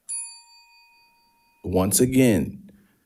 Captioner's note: bell dings